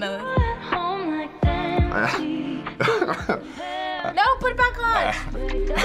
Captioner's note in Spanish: riendo ansiosamente